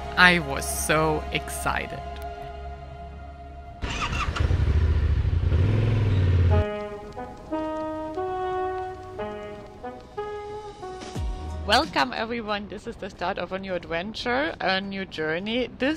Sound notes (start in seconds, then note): 3.8 motorbike revving; 6.5 lively music